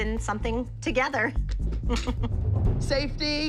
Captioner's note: laughs